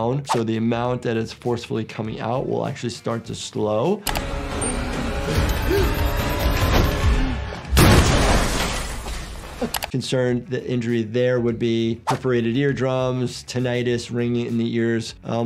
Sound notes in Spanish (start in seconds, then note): 4.1 música dramática; 5.3 pitido digital; 7.6 explosión